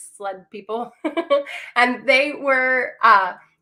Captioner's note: laughter